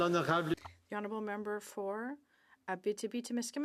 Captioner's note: speaking French